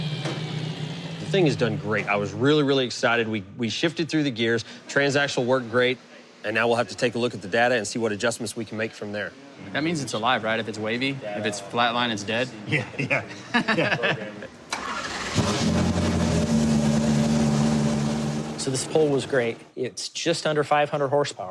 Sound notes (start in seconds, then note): 12.7 laughs; 14.6 engine starts